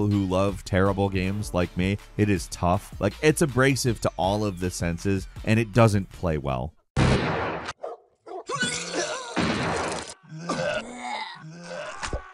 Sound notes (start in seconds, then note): 7.0 shotgun firing; 8.4 citizens retching